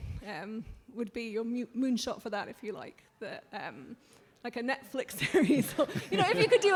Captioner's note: laughter